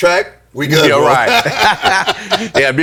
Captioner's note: laughing